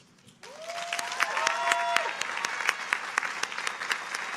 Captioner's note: audience applauding